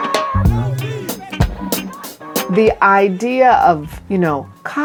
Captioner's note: demonstrators shouting